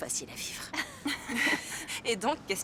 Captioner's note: laughing